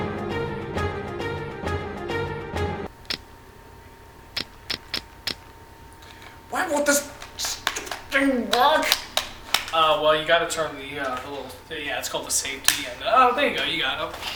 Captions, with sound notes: *click* *click click click click* Why won't this stupid thing work!? Oh, well, you gotta turn the little th-yeah, it's called the safety, and-oh, there you go, you got it-OH SH-